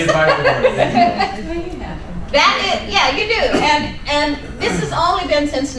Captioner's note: laughing